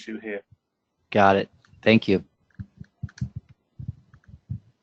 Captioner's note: pause